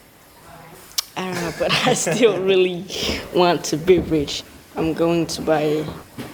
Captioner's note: laughs